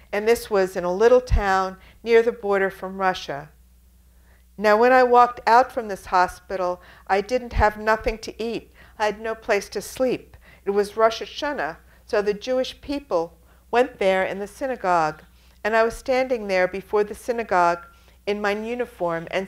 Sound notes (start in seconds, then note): none